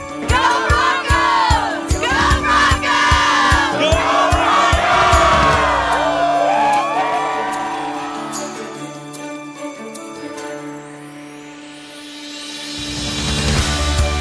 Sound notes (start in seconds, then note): 6.2 cheers; 8.4 upbeat music